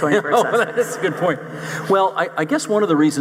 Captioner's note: laughs